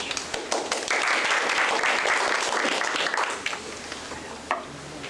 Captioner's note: applause